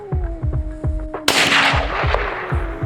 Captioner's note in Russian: выстрел